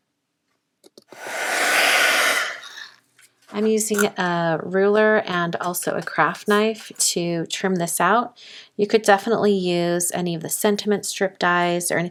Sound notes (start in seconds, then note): 1.1 heat tool whirs